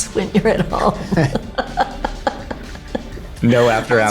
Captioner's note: laughs